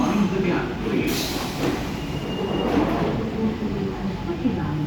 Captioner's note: doors open